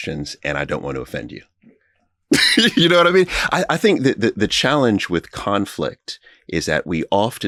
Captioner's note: laughing